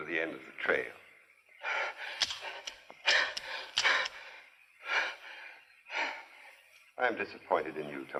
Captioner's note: sighs and gasps